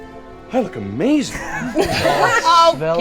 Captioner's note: laughing